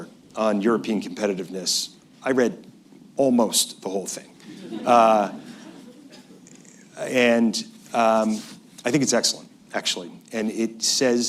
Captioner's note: laughter